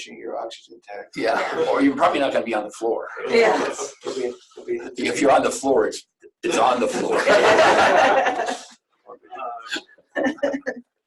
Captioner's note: laughter